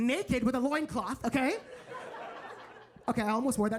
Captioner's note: audience laughing